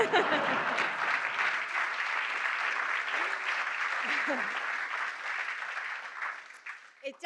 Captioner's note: laughter